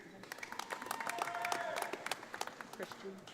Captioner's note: audience applauding